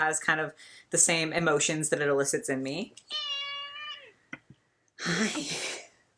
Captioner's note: cat meows